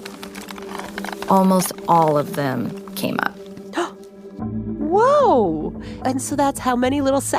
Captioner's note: gasps